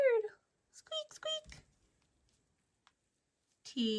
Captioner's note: mouse squeaks